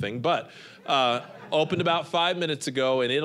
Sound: audience laughing

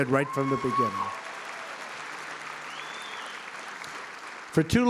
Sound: applause

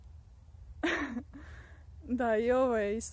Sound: nervous laugh :D

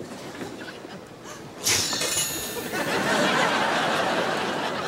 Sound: <i>sneezes

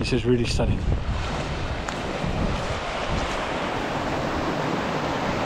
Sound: ocean roaring

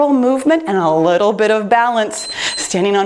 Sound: timer beeps

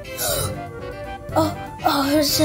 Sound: girl gasping

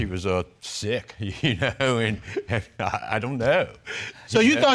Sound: chuckles softly

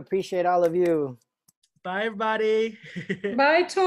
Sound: laughter

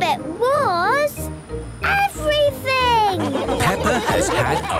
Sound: laughing

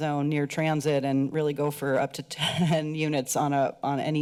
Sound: chuckles

